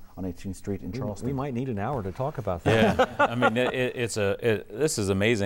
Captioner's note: laughing